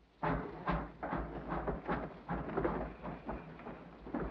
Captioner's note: train chugs